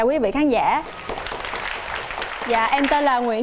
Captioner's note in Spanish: aplausos